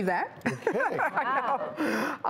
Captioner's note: laughs